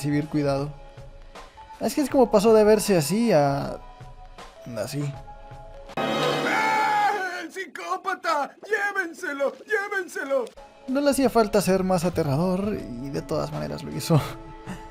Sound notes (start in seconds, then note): 6.1 screams